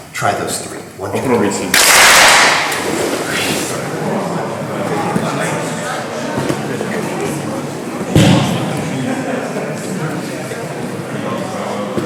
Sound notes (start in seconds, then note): 1.7 clap